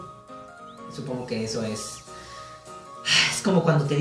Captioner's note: sigh